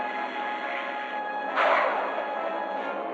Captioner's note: gunshot